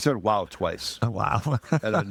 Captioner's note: laughing